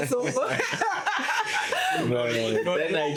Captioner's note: laughter